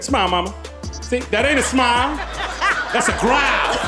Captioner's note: audience laughing